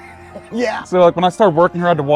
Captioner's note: chuckles